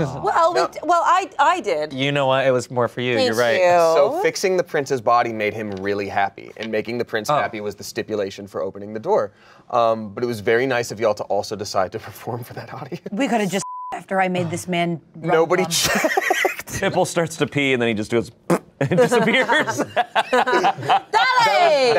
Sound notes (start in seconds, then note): 13.6 beep; 16.9 laughs; 18.4 blows raspberry; 18.8 everyone laughs